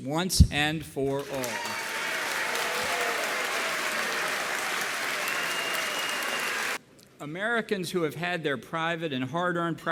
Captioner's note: applause